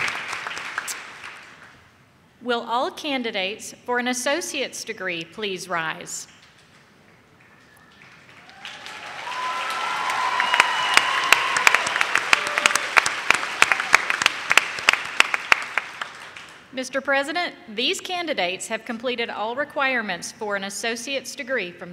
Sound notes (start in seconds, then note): 7.9 audience cheers